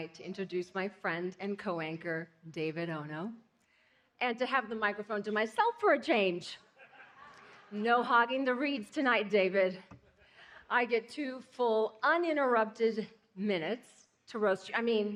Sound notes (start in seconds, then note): 6.7 laughing